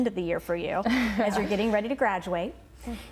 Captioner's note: laughter